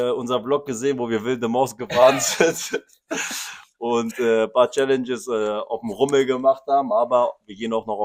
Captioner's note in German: gelächter